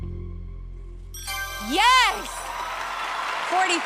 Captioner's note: ding